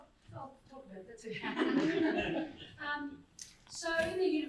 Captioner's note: crowd laughs